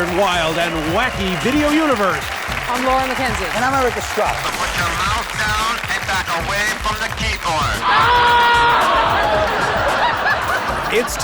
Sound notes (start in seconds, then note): 7.8 loud screaming; 7.9 screams and laughter